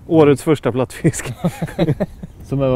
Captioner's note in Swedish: skrattar